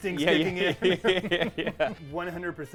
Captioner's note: laughing